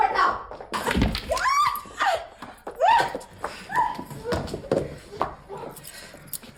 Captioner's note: scream